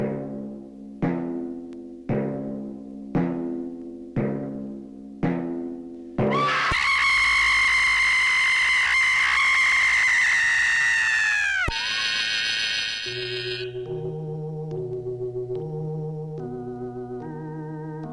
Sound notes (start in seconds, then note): 6.3 screams; 14.8 tense music